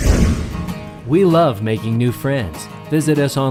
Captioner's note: voiceover